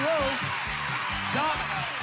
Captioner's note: audience applauding